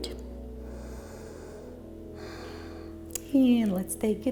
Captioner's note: breathing